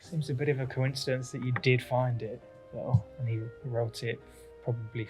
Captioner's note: none